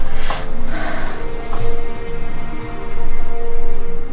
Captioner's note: Eden sighs